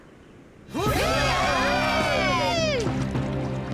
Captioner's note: cheering